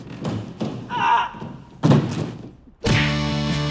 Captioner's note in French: cri de douleur